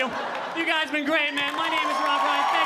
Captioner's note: audience laughing